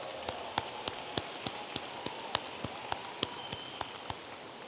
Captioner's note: audience applauding